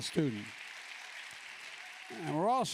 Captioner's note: applause